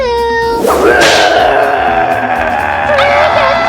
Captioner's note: monster roaring